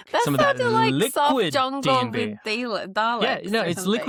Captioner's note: laughs